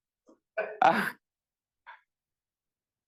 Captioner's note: chuckling